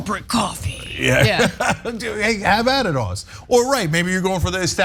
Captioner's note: laugh